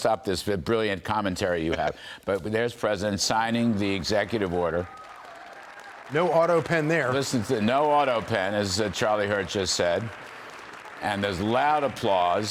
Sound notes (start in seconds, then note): 8.5 cheers and applause